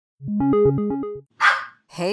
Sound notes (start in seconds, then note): 1.4 start sound, dog barks